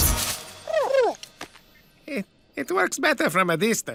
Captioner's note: cooing